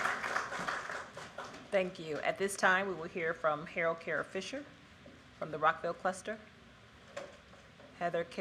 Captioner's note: applause